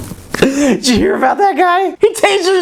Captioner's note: laughs